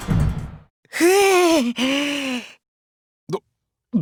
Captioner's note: weary sigh